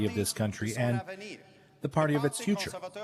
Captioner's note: speaking French